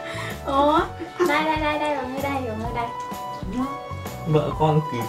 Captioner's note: laugh